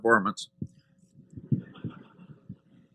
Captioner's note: laughter